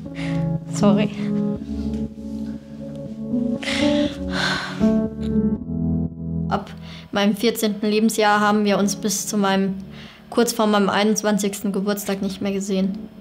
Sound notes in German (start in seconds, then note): 0.1 Seufzen; 2.4 Traurige Musik; 3.7 Schluchzen